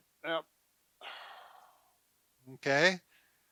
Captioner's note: exhales